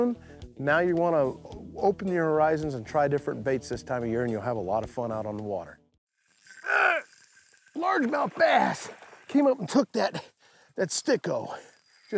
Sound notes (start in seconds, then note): 6.6 grunting